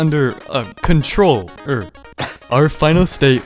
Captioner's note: cough